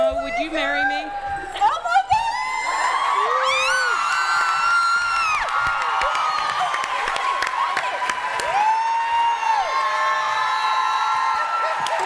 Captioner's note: cheering